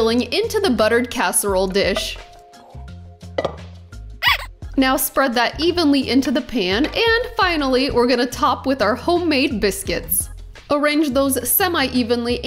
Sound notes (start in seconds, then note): 4.2 muscles squeaking